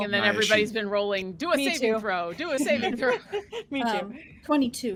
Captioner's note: laughing; laughs